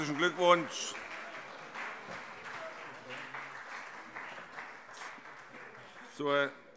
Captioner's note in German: Beifall